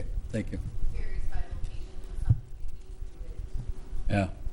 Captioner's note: faintly speaking